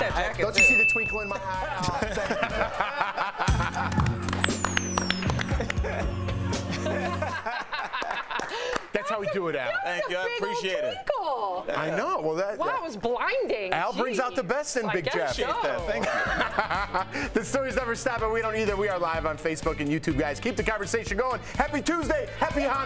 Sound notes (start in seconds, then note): 15.6 laughter